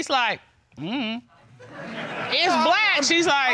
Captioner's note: audience laughs